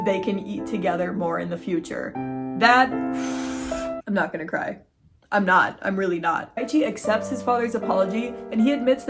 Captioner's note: deep breath